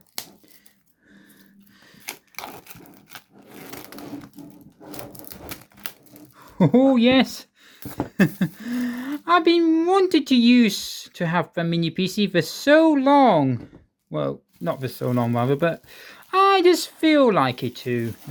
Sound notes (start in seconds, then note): 1.3 plastic unwrapping sound